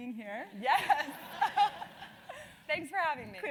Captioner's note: laugh